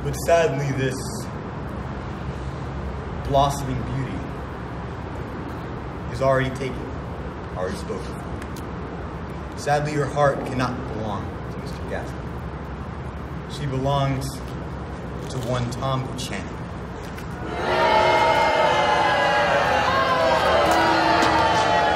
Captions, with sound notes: But sadly this, blossoming beauty, is already taken, already spoke of. Sadly her heart cannot belong to Mr. Gatsby. She belongs to one Tom Buchanan. [ Audience boos ]